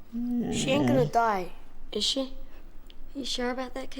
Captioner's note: dog moaning